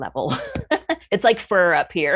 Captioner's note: chuckles